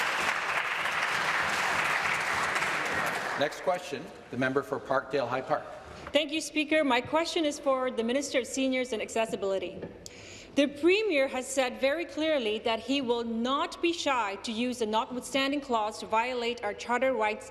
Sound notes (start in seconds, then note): 0.0 applause